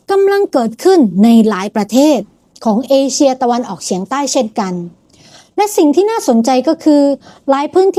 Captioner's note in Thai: เสียงสูดหายใจ